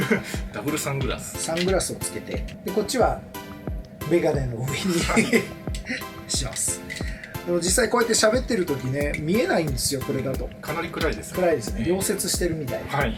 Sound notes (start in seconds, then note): 4.6 laughs